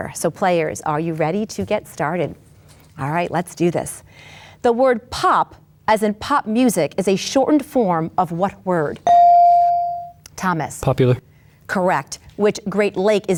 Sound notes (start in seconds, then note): 9.0 bell dings